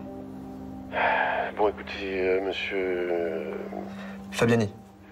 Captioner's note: Raffali sighs